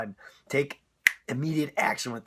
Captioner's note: snap